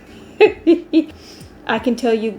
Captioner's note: hee hee hee